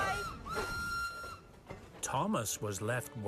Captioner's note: toot-Toot!